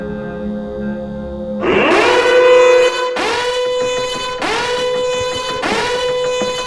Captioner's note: containment Alarm